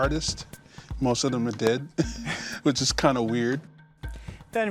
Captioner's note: chuckles